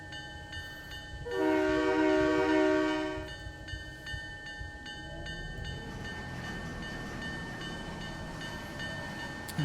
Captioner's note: train whistle